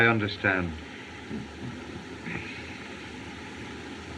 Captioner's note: chuckles